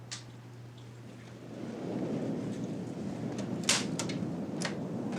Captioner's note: waves crashing